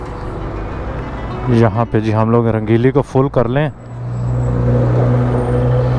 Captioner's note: motorcycle